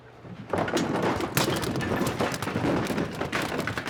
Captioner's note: objects rumbling